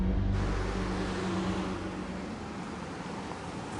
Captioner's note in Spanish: Sonido del motor